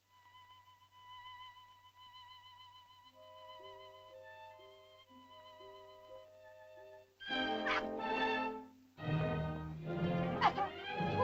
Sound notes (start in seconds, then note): 0.0 melancholy music; 7.2 suspenseful music; 7.6 Loana yelps; 9.0 suspenseful music